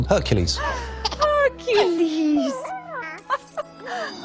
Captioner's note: Hercules cooing; chuckling